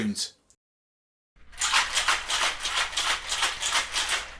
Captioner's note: shaking cocktail